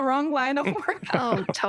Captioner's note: laughter